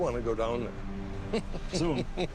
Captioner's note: laughs